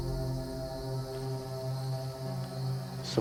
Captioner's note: dramatic music; insects chirping; dramatic music